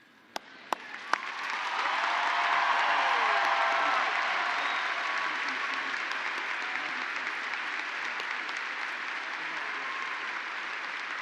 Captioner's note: applause